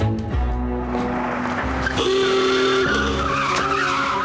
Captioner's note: car horn